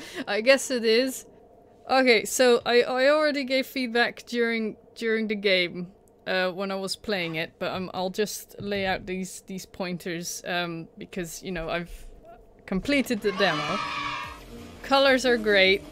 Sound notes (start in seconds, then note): 13.2 cheering